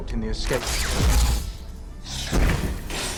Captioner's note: lightsaber activating; slashing and breaking noises